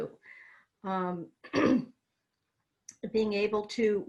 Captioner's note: clears throat